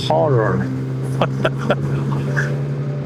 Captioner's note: laughter